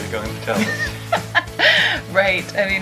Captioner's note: laughs